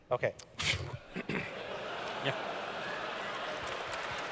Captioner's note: laughter